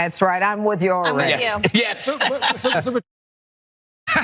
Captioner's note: laugh